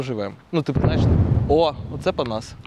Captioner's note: explosion sound